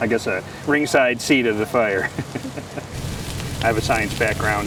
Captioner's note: laughs